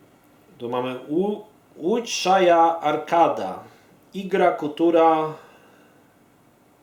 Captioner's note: speaks Russian